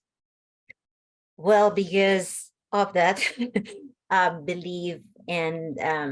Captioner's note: laughs